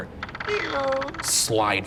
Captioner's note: door creaks